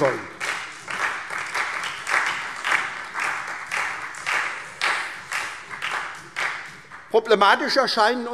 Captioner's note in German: Beifall SPD und vereinzelt Freie Demokraten